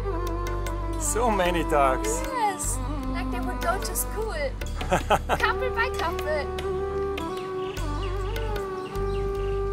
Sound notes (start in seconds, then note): 4.8 laughing